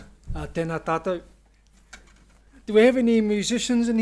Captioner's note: speaks Maori